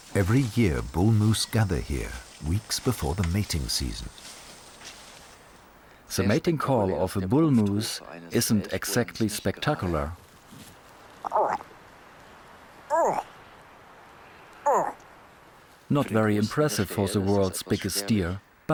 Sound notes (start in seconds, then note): 5.9 in German